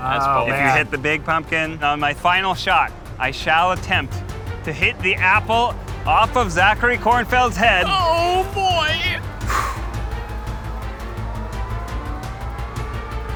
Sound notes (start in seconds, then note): 9.4 exhales; 10.8 tense music